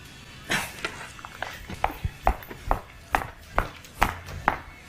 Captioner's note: boots clack